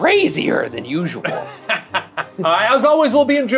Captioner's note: laughing